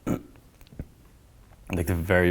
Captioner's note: clears throat